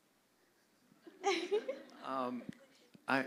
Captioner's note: laughter